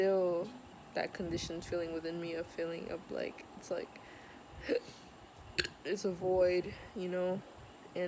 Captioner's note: belch